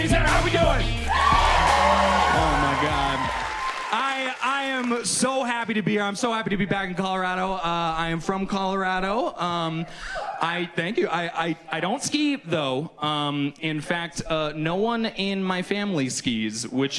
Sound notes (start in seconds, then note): 2.7 audience cheers; 9.2 audience member hoots